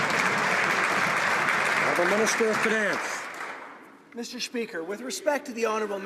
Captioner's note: some Applause